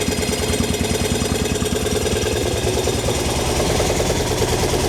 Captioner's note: engine noise